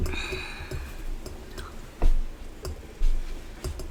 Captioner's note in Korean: 한숨